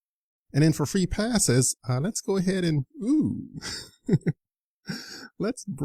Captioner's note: laughs